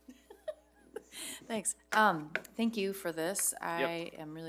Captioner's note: laughs